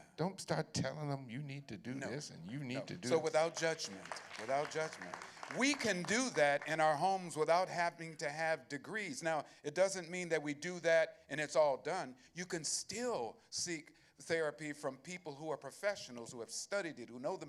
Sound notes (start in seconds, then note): 3.0 applause